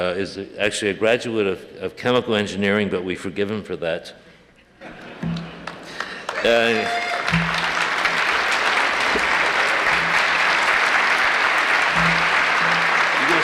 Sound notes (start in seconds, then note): 5.6 applause